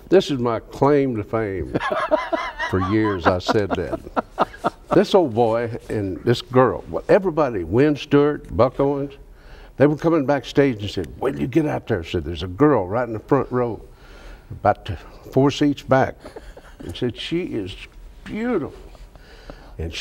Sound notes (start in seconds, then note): 1.6 laughs